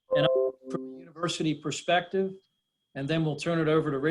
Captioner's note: beeps